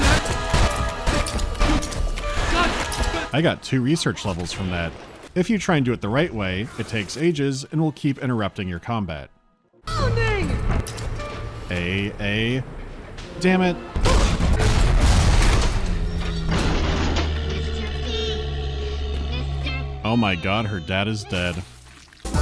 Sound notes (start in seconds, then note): 10.8 click; 14.0 pwom-BOOSH